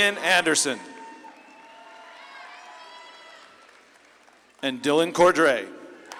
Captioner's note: audience claps and cheers